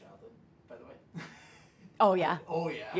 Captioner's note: laughs